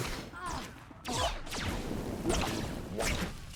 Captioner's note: none